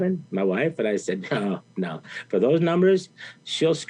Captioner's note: chuckles